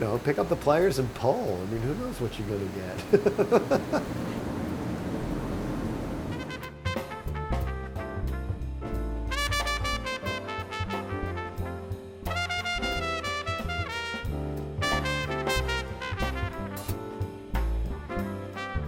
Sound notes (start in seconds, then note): 2.9 laughing; 6.4 jazz music